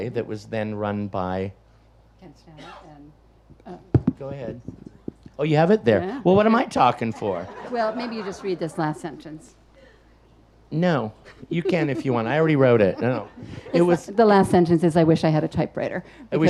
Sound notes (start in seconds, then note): 6.5 audience laughs; 11.3 laughs